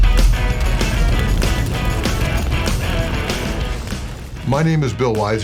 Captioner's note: upbeat music; flames whooshing